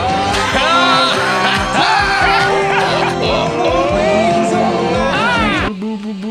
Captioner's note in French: Ils rient tous les deux